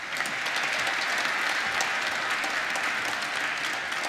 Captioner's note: applause